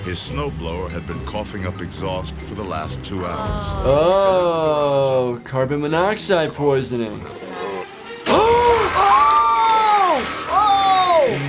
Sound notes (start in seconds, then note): 8.2 both screaming; 11.2 flesh and bones squelching